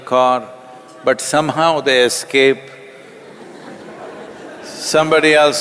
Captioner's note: laughter